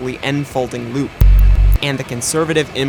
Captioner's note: glitch